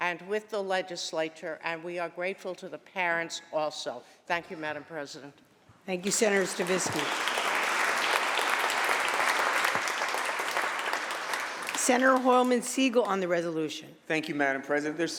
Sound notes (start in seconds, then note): 6.0 applause